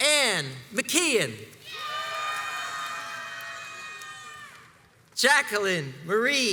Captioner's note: crowds cheers and applauds